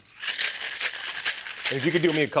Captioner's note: ice rattling